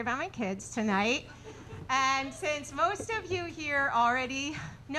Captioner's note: audience laughing